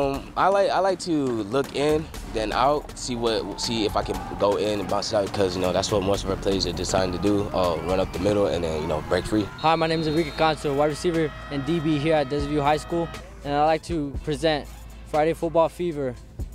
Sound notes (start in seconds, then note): 5.7 team cheers